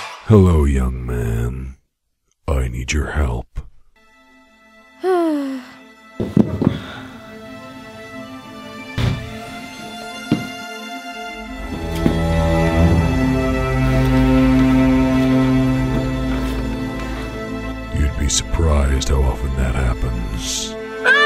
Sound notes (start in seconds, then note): 5.0 sighs; 6.2 thuds against floor; 8.4 dramatic string music